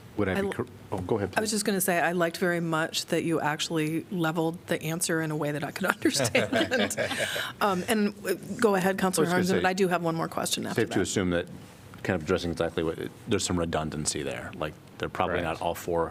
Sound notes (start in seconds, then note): 6.0 laughter